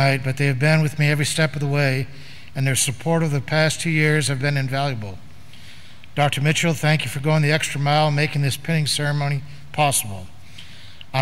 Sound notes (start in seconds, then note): none